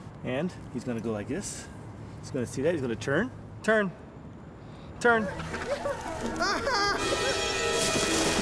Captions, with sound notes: And he's gonna go like this. He's gonna see that, he's gonna turn. Turn. Turn. [CRABBE WHIMPERS]